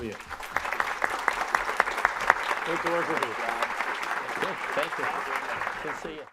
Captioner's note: audience clapping drowns out speakers